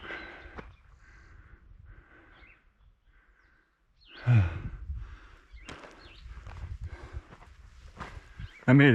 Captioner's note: breathing heavily